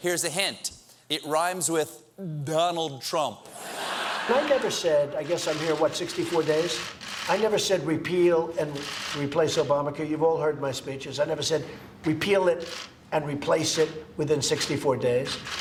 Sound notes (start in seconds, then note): 3.6 laughter